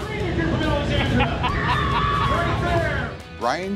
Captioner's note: laughing